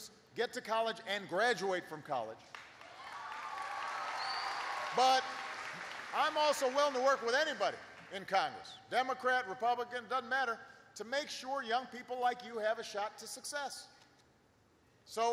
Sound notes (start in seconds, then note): 2.4 applause